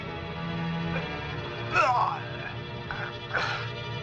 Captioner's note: grunting